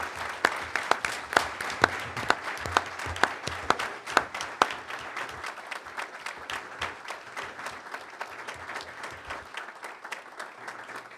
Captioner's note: applause